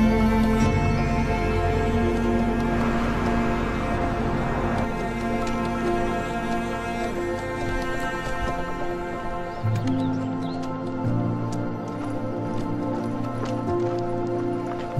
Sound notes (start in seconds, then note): 3.9 engines roar; 9.6 birds chirping